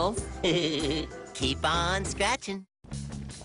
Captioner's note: giggles